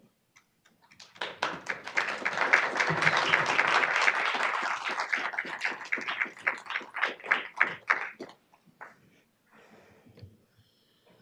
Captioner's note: applause